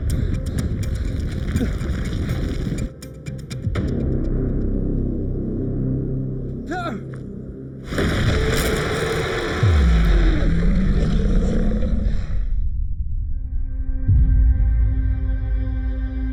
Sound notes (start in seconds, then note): 0.0 ground rumbling; 3.9 dramatic music; 7.8 ground bursting; 7.9 shark roaring; 8.8 shark thuds; 8.8 teeth crunching; 9.9 shark growling; 12.3 brooding music